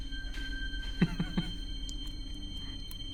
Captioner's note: chuckles